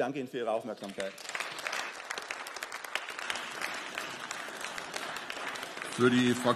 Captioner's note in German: Beifall